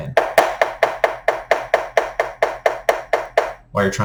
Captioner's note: pen taps